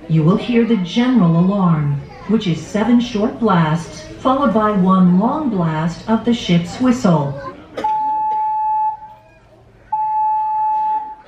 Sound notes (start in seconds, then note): 7.9 whistle blaring